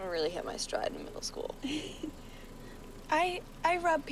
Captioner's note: laughs